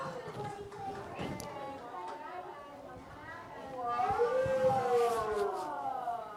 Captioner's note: applause